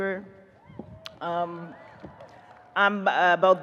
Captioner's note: audience cheers